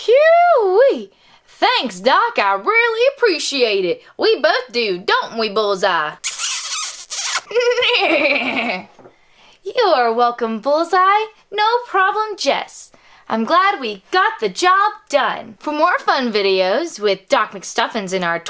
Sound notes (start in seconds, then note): 6.2 kissing noise